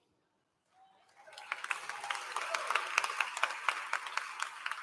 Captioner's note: applause